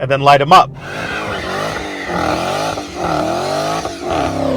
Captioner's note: engine Revving